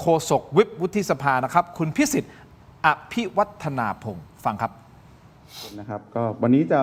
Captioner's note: takes a deep breath